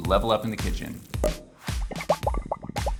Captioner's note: champagne bubbling; upbeat music